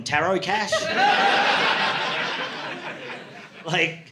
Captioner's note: audience laughing